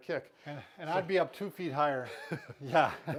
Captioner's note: laughs